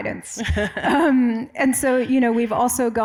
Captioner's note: laughs